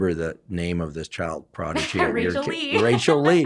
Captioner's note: laughs